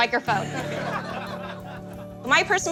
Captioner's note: laughing